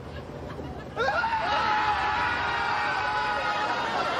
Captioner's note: Costanza, Seinfeld scream; laugh track